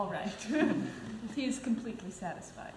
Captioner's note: laughs